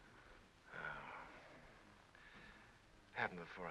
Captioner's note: Lee sighs